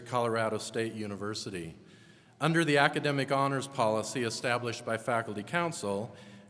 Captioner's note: none